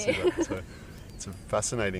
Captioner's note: laughs